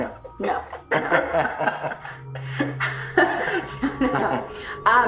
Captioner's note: laughter